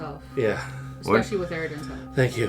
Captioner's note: breathing a sigh of relief